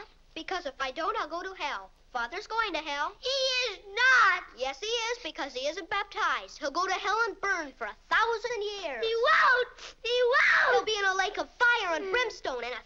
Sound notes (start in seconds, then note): 10.2 screaming